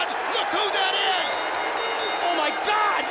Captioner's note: bell rings